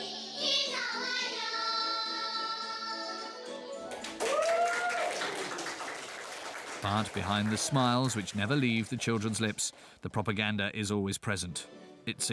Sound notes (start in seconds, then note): 3.8 cheering and applauding